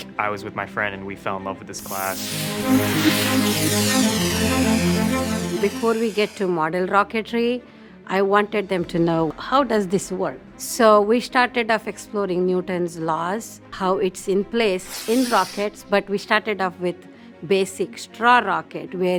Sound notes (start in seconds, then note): 1.8 stirring music continues; 1.8 rocket hissing